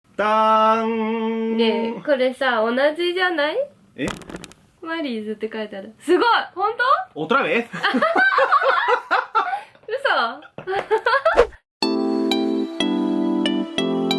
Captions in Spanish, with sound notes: yo les voy a dar dolares (Risas)